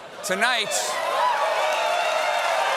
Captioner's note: cheers and applause